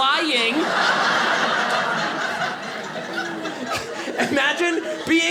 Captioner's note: audience laughing